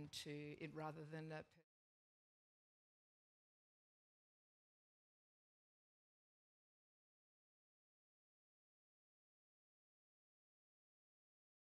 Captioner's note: no audio